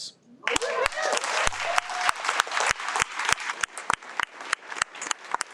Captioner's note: audience cheers and applauds